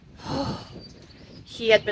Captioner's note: breathes out